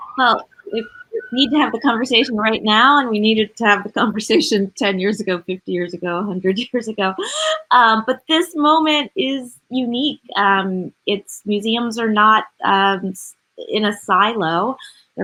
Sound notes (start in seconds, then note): 0.0 siren blaring; 7.0 laughs